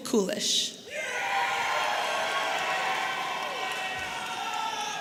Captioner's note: audience cheering